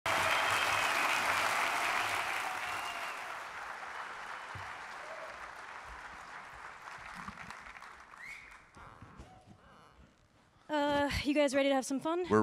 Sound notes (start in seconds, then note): 0.0 audience clapping; 0.0 audience cheering; 2.6 audience member whistling; 8.1 audience member whistling